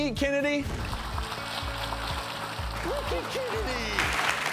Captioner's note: audience applause